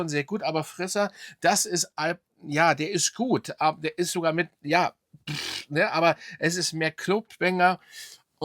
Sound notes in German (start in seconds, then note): 5.3 schnauben